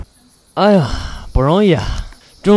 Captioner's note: sigh